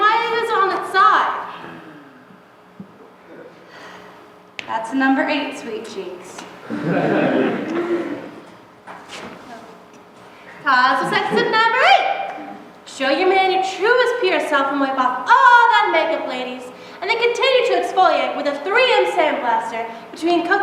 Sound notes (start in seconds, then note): 6.6 laughter